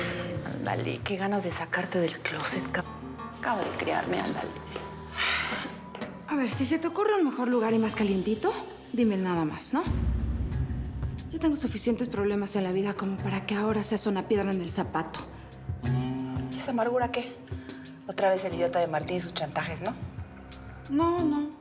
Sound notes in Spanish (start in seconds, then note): none